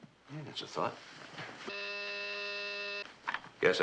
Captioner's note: intercom buzzing